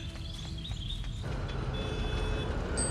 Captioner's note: car horn toots, bells ding